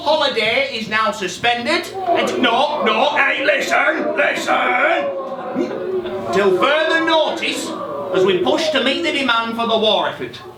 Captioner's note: SFX of angry work men